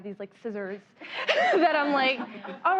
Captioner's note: laughter